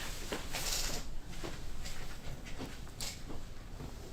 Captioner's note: chair creaks